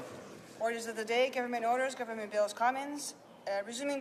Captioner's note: speaking French